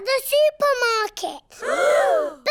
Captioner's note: all gasp